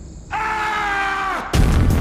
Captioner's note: man screaming; dramatic music